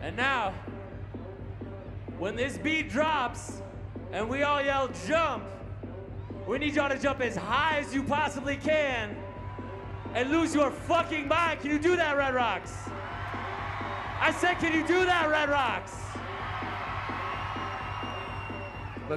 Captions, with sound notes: - AND NOW WHEN THIS BEAT DROPS AND WE ALL YELL JUMP WE NEED Y'ALL TO JUMP AS HIGH AS YOU POSSIBLY CAN AND LOSE YOUR FUCKING MIND! CAN YOU DO THAT RED ROCKS? [CROWD CHEERS] I SAID CAN YOU DO THAT RED ROCKS? [CROWD ROARS]